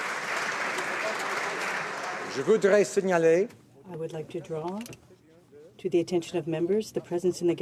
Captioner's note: some Applause